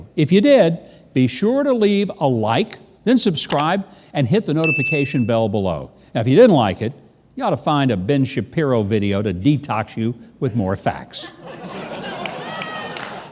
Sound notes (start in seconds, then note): 3.5 mouse clicks; 4.6 dings; 11.2 audience laughs